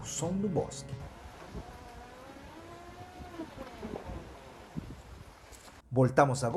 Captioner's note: noise of creaking trees